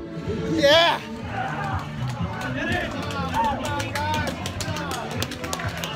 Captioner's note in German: Applaus